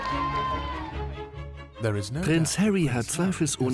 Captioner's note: voiceover